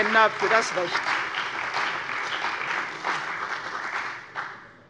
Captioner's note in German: Beifall bei der CDU und dem BÜNDNIS 90/DIE GRÜNEN